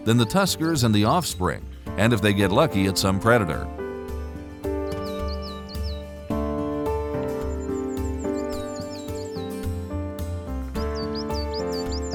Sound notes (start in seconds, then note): 4.2 birds calling; 5.0 soft music